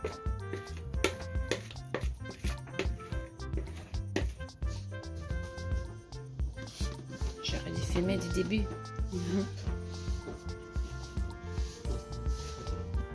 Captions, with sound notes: [French] I should have filmed you from the start